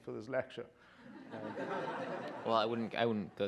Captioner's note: laughter